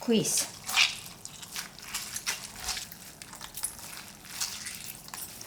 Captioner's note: water squeezing